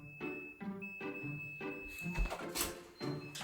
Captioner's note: the door lock sound 🔔